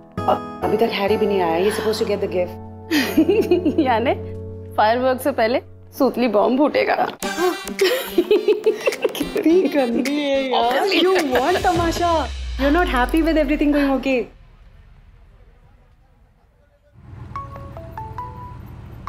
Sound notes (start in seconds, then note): 2.9 laughs; 7.3 Vandy laughs; 17.3 phone ringing